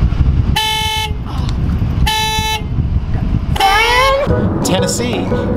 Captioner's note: car alarm